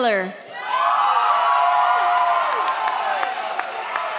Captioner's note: audience cheers